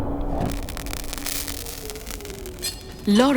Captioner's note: flame crackling; wind howling